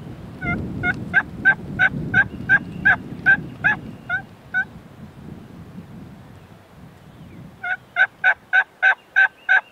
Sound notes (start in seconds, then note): 0.6 calling